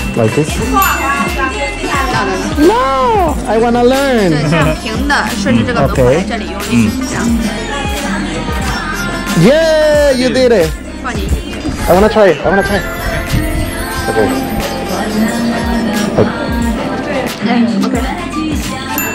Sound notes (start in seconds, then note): 4.8 speaking Chinese; 14.2 soft music plays